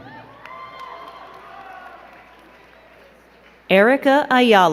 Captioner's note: crowd cheering and clapping